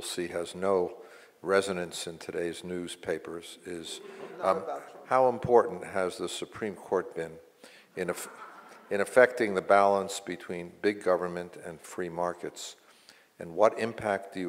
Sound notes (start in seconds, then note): 3.8 mumbles; 3.8 audience laughs